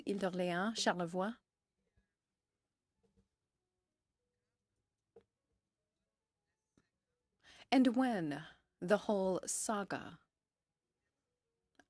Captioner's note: french